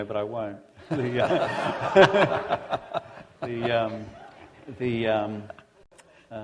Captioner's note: laughter